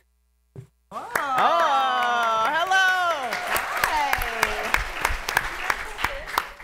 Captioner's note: applause